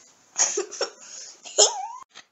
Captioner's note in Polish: Śmiech